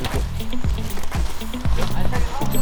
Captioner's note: the rain starts to fall